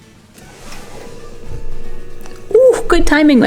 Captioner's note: compressor kicks on in background